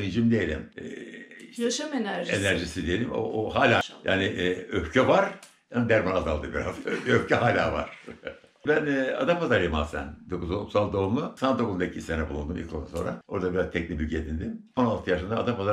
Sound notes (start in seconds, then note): 6.2 laughter